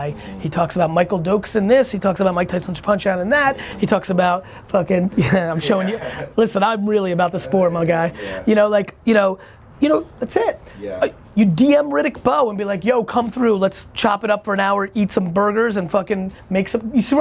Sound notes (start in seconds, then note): 5.1 laughing